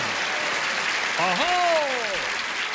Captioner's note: applause